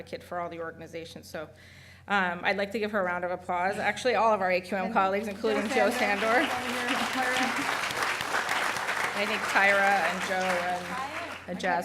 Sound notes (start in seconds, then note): 5.3 applause